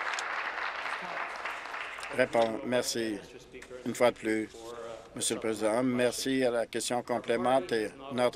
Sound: applause

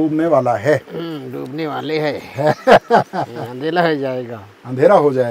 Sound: laughs

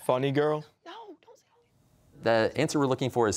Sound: whispering

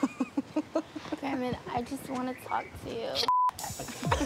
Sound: both chuckle; beep; chuckling

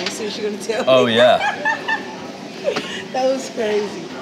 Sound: laughs

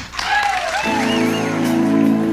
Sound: applause

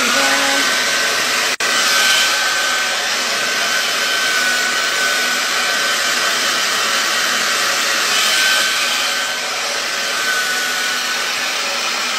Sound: blow-drying hair

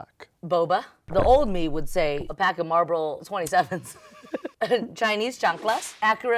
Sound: laughs

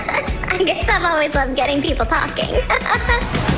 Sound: laughing

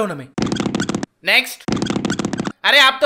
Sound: running sound

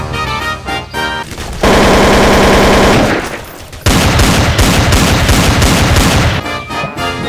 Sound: gunshots

